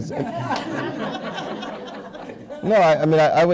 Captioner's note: laughs